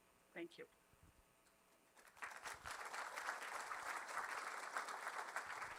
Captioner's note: applause